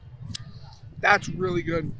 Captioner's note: lips smack